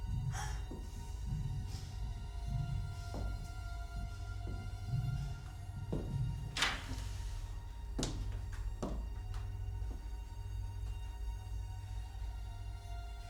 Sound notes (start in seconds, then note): 6.6 latch clicking; 8.1 footsteps plodding; 8.1 suspenseful music continues